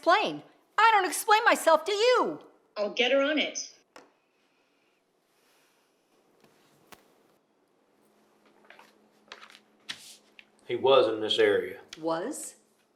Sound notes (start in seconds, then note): none